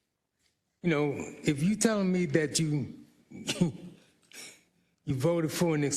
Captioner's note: laugh